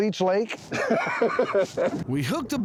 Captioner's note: laughing